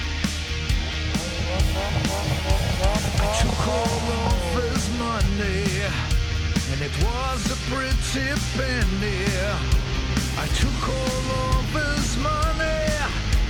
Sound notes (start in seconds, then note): 0.8 car engine revving